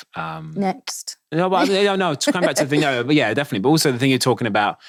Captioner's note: stammering